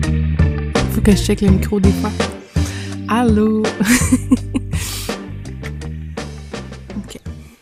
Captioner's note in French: rires